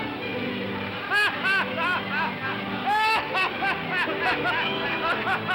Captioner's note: music plays; waves crashing; sailor laughs loudly; Fred laughs